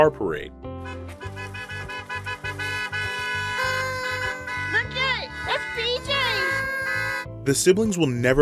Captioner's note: cars honking, woman exclaiming